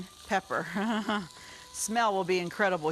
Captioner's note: laughing